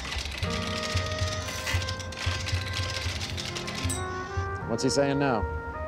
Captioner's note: mechanical whirring and clattering